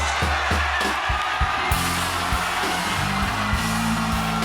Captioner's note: cheers and applause